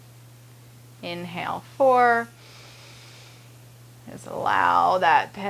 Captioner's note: inhaling